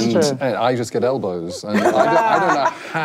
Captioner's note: laughing